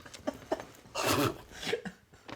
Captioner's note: laughs; spits